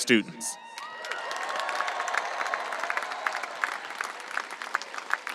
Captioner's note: audience applauding and cheering